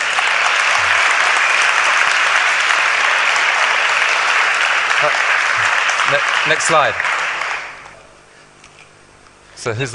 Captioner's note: applause